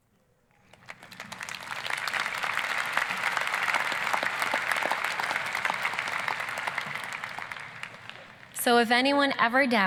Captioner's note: applause